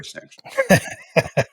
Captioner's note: laugh